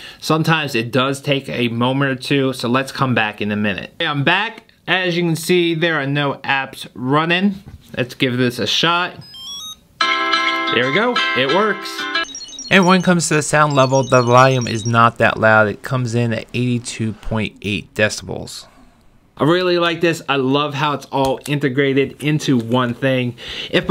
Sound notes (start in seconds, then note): 9.2 wallet beeps; 9.2 phone rings; 11.8 wallet beeps